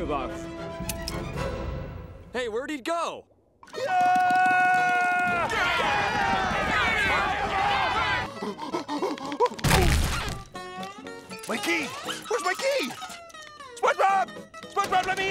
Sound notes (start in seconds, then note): 3.7 screaming; 6.7 yelling; 8.2 panting